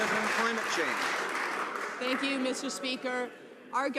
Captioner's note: some Applause